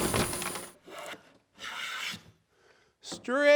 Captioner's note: wood rubbing